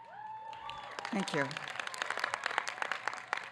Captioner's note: applause